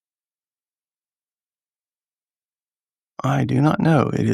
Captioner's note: silence